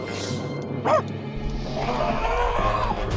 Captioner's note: barks; suspenseful music